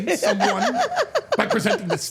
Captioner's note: Steph and Elyse laughing